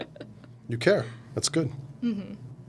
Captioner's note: laughing